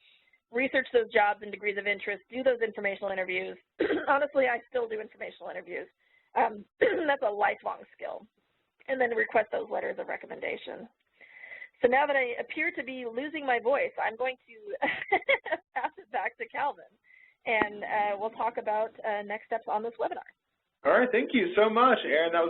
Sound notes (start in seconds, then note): 14.7 laughs